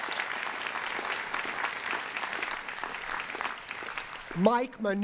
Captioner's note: cheering and applause